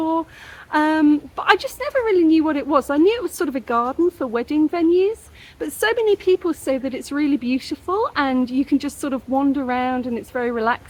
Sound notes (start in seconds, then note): none